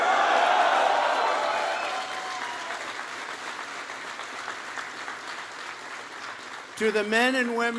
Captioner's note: applause